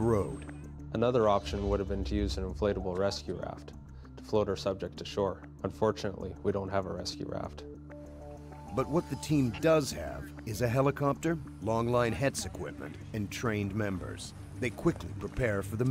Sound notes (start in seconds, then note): 2.5 voiceover